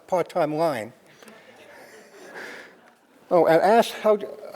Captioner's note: crowd laughing